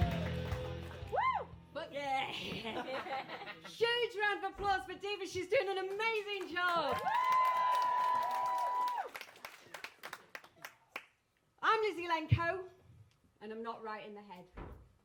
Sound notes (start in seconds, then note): 0.0 music fades out; 9.7 applause